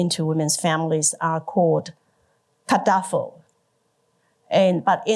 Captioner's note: indigenous language/ 原住民語